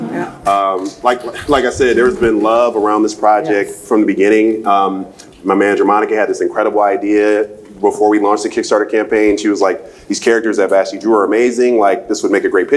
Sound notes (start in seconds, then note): 1.2 laughs